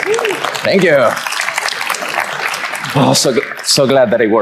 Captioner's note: audience applauds